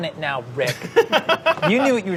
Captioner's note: laughs